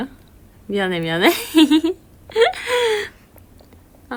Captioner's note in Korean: 웃음